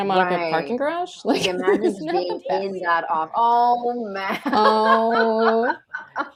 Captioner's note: laughter